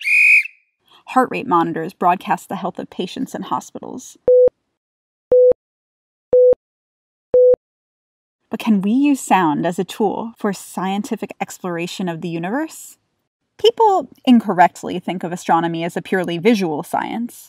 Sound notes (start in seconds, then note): 0.0 sports whistle; 4.3 heart monitor beeping